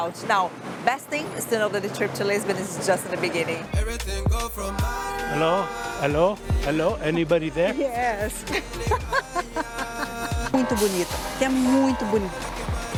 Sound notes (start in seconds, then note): 8.3 laughs